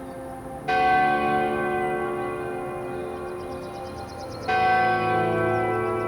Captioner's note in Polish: bicie dzwonu